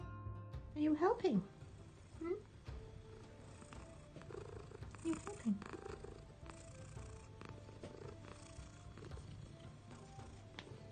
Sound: purring

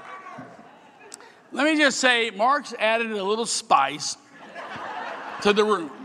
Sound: laughing

